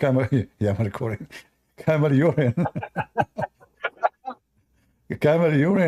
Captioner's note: Ketawa